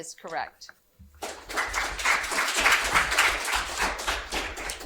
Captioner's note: audience applauding